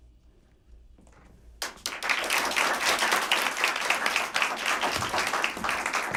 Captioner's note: applause